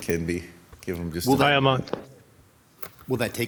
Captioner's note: operator speaking in foreign language